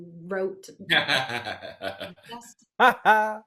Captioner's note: laughing